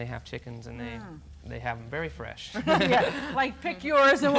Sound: laughs

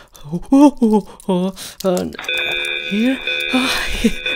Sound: alarm

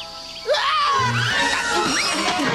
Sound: Tai screams

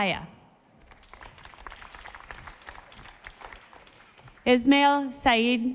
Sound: audience applauding

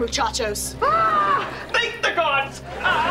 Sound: screaming

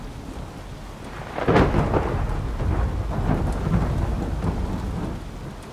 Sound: thunder cracking

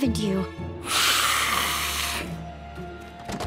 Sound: hissing

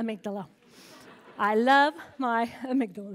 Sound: laughter

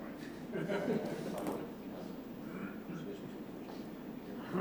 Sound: chuckling

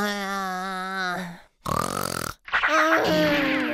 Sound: moaning; snoring

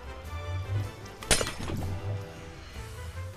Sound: portal breaking

